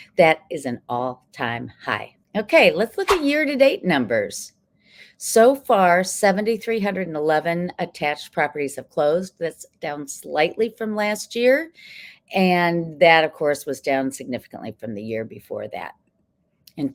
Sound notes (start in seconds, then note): 2.9 text whooshing